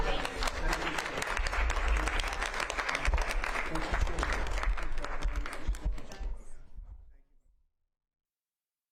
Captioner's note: applause